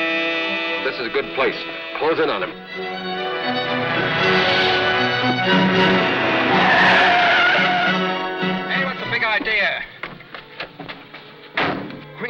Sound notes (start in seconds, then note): 3.6 dramatic music; 6.9 tires squeal